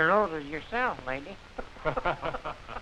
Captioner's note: chuckling